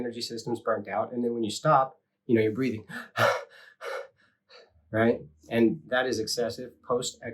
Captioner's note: breathing sounds